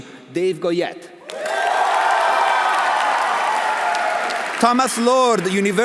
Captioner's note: audience cheering; audience applauding